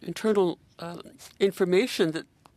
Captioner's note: speaking in French